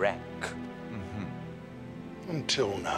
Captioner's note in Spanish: Xax riéndose